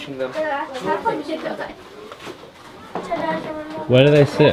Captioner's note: foreign language